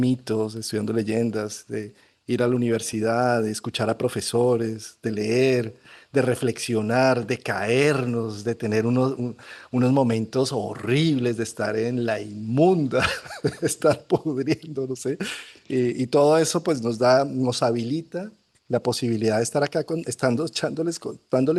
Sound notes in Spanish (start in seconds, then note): 12.9 risas